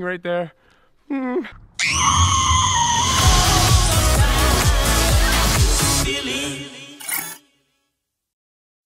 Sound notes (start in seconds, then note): 1.8 little girl screaming